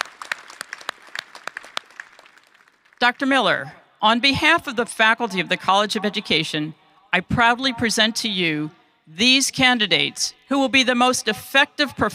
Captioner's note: applause